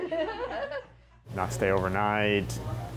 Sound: all chuckle

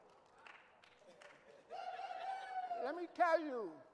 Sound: audience cheering

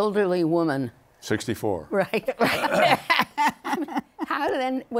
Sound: laughter

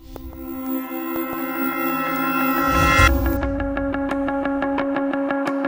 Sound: CB Aviation sound

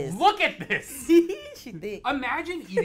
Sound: laughs

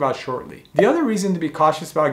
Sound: bubble popping

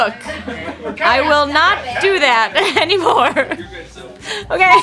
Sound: laughing

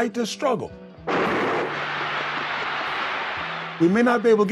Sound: gun shot

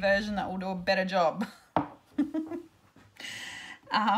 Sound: laughs

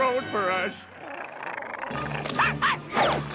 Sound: growling; barking

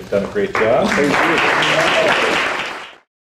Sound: audience applauding

